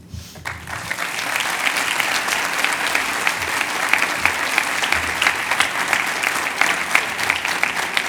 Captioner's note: cheers and applause